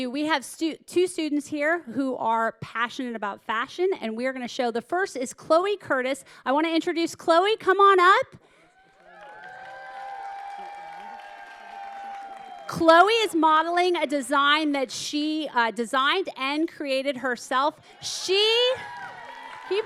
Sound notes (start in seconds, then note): 8.8 audience cheering; 18.0 audience cheering